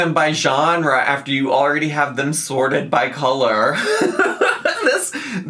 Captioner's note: laughs